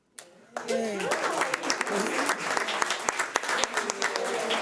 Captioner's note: audience claps